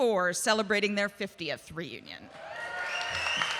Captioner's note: audience cheering and applauding